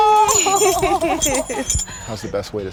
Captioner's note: laughter